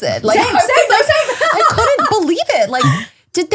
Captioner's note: laughing